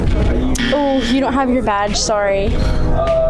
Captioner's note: music and nat sound up full; music under; buzzer sound effect; music and nat sound up full